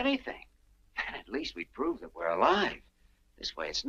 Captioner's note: chuckles